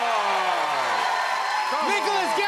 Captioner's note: cheers and applause